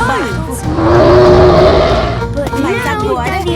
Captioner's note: loud roar